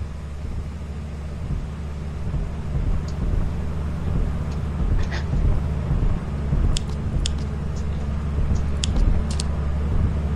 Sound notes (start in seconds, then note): 6.7 click; 8.5 click